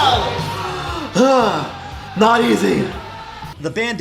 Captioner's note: gasping for breath